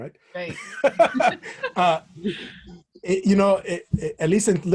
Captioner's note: laughter